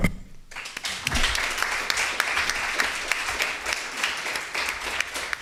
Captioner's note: applause